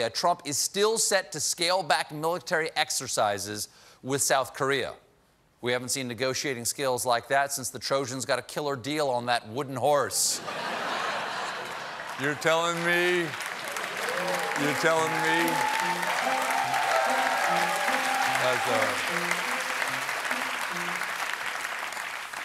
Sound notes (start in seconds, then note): 10.4 laughter; 19.8 applause